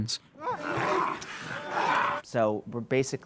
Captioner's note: growling